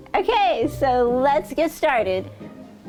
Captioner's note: none